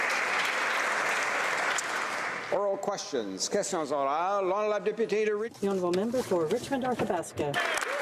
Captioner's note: applause